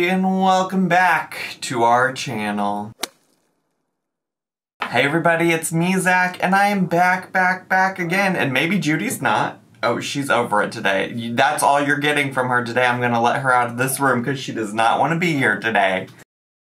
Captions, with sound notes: And welcome back to our channel. (slapping sound effect) Hey everybody. It's me, Zach. And I am back, back, back again, and maybe Judy's not. Oh, she's over it today. That's all you're getting from her today. I'm gonna let her out of this room, 'cause she does not want to be here today.